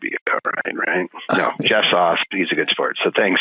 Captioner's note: laughing